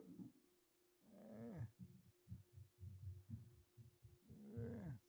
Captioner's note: grunts